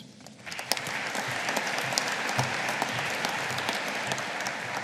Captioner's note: audience applauding